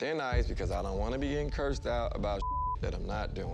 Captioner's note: beep